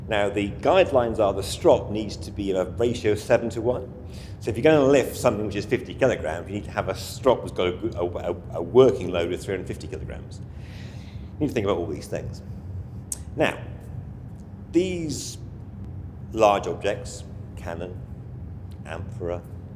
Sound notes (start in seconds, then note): 8.0 stammers; 13.1 tongue clicks